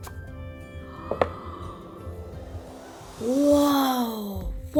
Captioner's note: gasps